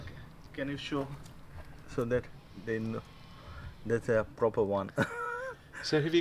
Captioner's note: laughs